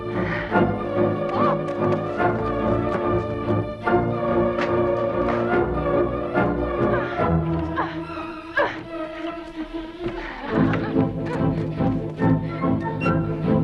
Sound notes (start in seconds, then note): 8.1 Hundra grunting